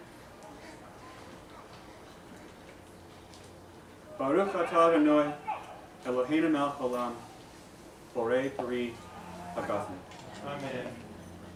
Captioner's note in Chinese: 希伯语